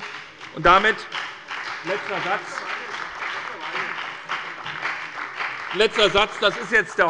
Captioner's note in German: Beifall bei der SPD und der FDP